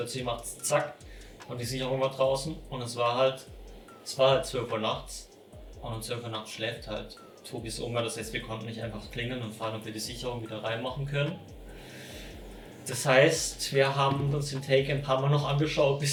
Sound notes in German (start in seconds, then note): 11.6 sighs